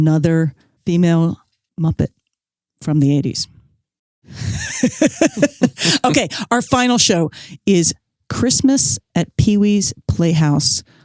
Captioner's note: laughs